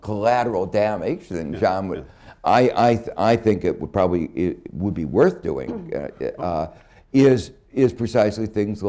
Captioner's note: laughter